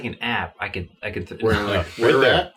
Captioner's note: laughs